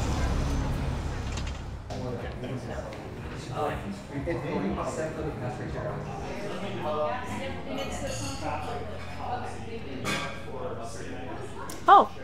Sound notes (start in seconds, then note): 2.2 customers chattering; 7.7 customers chattering; 7.7 ceramic clinks